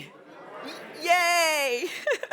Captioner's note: laughs